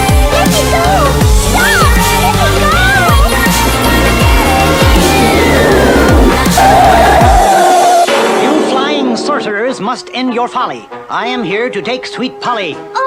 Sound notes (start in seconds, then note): 8.0 bang!